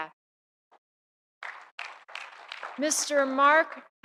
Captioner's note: audience applauding